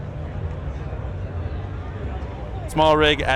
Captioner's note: crowd chattering